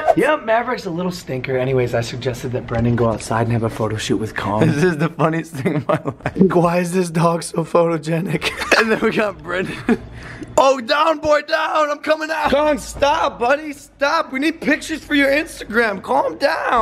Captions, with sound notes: Yup, Maverick's a little stinker. ANYWAYS I suggested that Brendan go outside and have a photoshoot with KONG THIS IS THE FUNNIEST THING IN MY LIFE *laughing* WHY IS THIS DOG SO PHOTOGENIC??? AND THEN WE GOT BRENDAN OH DOWN BOY, DOWN! I'M COMIN' OUT KONG STOP, BUDDY, STOP! WE NEED PICTURES FOR YOUR INSTAGRAM CALM DOWN